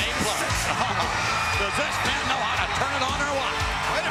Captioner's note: laugh